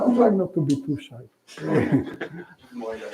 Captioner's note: laughter